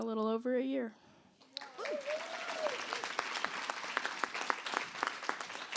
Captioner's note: applause